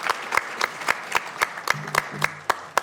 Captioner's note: applause